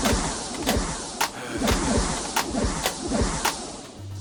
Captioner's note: sighing